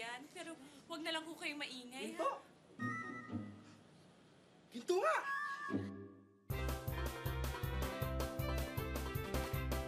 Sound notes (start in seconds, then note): 3.3 gasps; 6.4 lively music playing